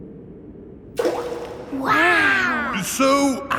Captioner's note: rock plops